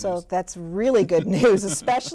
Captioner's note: laughter